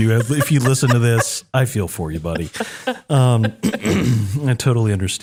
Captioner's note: clear throat